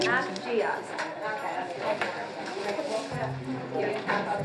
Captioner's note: chatter